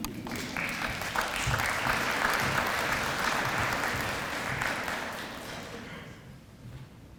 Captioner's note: audience applause